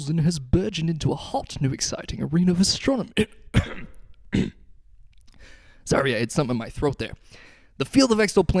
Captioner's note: coughs